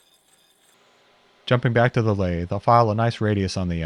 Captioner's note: lathe whirring